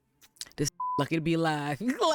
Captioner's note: beep